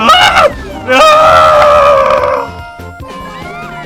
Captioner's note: falling down scream